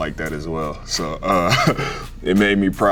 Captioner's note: chuckles